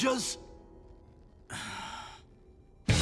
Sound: sighing

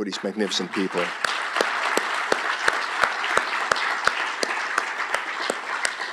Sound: applause

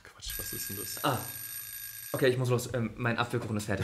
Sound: kitchen timer rings - pie’s ready

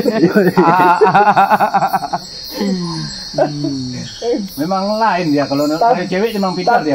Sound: laughs

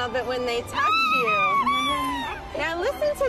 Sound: screams

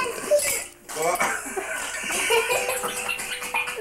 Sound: laughing

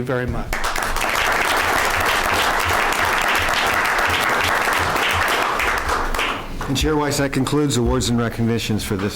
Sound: applause

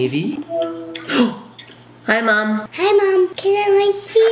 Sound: gasps

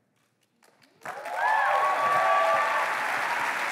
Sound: applause

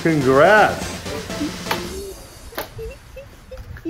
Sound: giggling

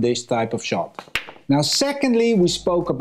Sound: balls clanging

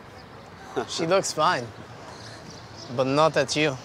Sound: chuckles

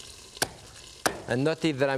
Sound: knife thudding

